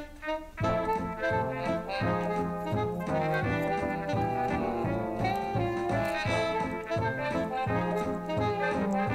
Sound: needles clicking

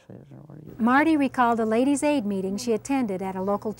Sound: voiceover

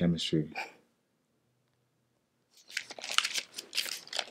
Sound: laughs softly

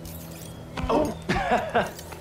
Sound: laughs

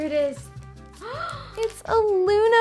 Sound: gasps

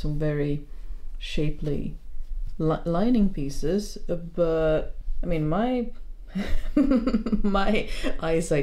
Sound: laughs

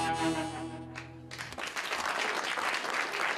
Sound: applause

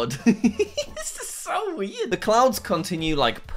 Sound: chuckles

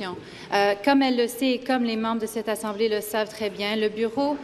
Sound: speaking in French

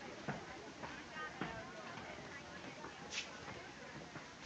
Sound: indistinct chatter

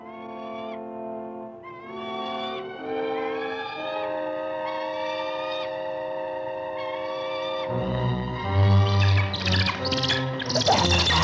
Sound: bird shrieking

